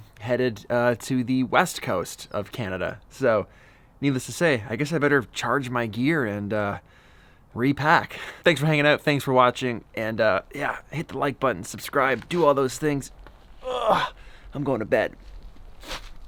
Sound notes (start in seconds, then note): 13.6 grunts